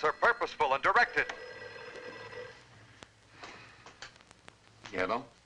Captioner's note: phone ringing